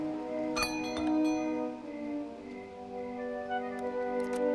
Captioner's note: doorbell ringing